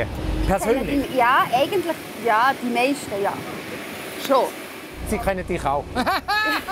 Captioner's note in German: lacht